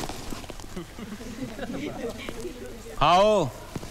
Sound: laughs

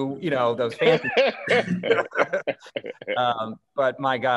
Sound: laughter

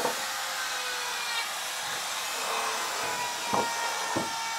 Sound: buzzing in the background

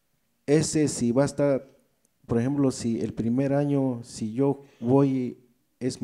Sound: speaks in foreign language

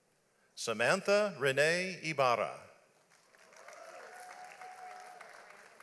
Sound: audience applauds

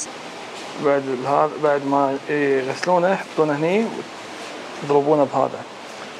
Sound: speaking foreign language

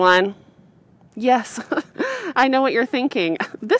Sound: laugh

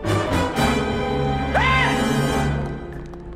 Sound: scream

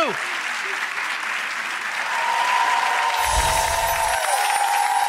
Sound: audience cheering

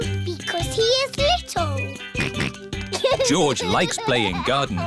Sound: snorts

